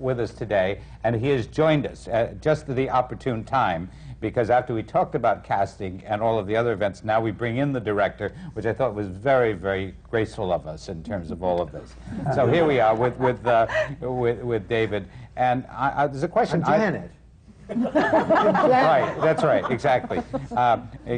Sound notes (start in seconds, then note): 12.2 laughter; 17.6 laughter